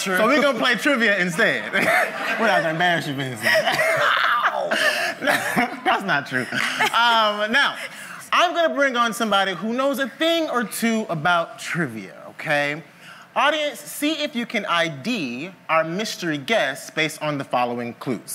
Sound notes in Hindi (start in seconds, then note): 1.6 मुंह दबाकर हंसना; 3.3 हंसी